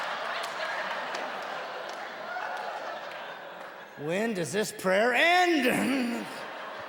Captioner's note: audience laughing